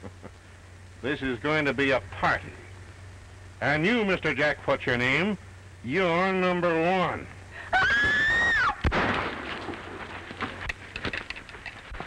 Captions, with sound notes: This is going to be a party. And you, Mr. Jack what's your name, you're number one. [scream] [gunshot]